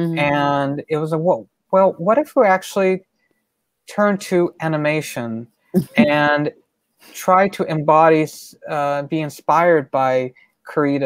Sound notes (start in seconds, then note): 5.7 laughs